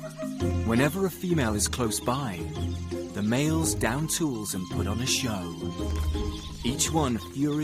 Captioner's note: birds chirping; playful music continues